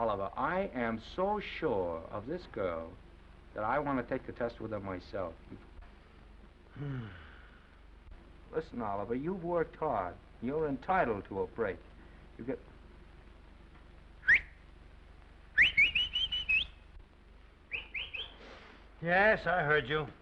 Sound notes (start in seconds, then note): 6.7 Oliver sighs; 15.5 whistling